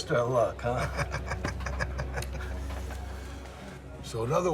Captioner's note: Jack laughs